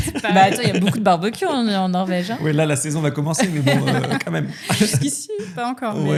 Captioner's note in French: rires; rires